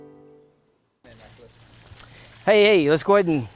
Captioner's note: liquid splashing